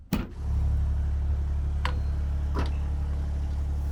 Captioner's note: machine whirring